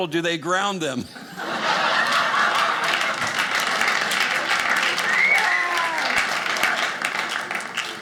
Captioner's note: audience laughing